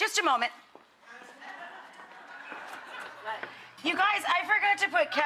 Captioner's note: laughter